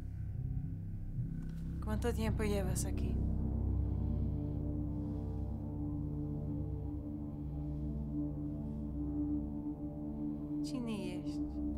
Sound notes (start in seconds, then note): 1.4 speaking foreign language